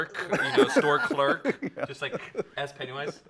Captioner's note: pleasant laughing